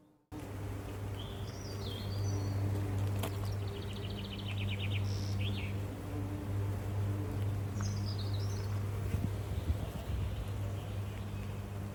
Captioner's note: birds chirping